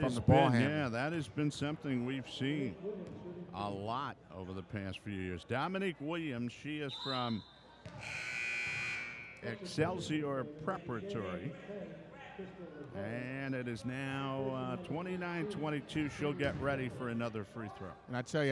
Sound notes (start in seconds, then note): 8.0 buzzer sounds